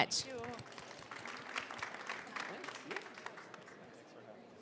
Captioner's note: audience clapping